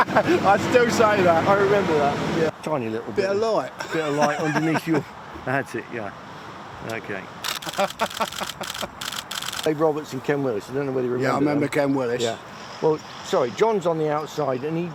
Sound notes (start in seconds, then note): 7.6 laughing